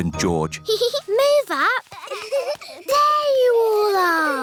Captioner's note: peppa giggles